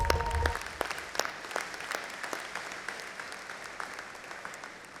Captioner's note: audience applauding